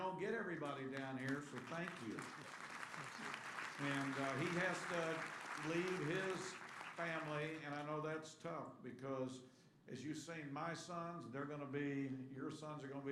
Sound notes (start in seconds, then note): 0.6 applause